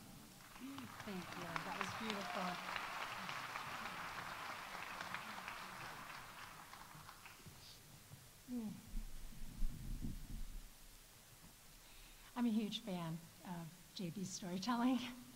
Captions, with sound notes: Thank you, that was beautiful. -(audience applauding) -(audience cheering) I'm a huge fan of JB's storytelling